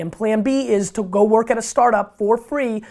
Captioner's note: none